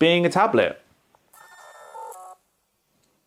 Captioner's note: camera shutter sound